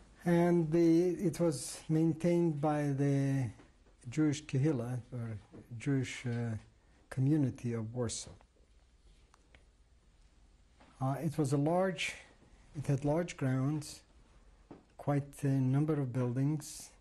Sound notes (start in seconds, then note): 8.2 pauses for 3 seconds